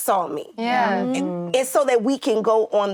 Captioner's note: actresses reacting